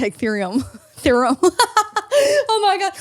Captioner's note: laughs